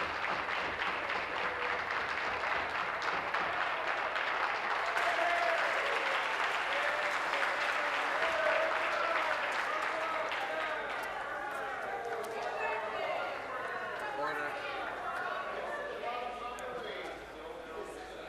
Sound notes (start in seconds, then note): 3.6 some Applause